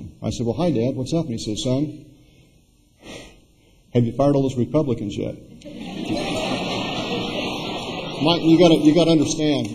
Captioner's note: laughter